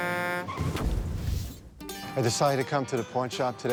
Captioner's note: horn honking; crashing sounds